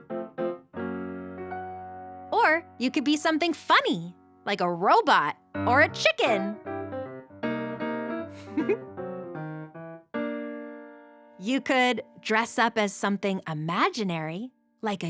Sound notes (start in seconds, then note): 0.0 spooky piano music; 6.8 playful piano music; 8.4 giggles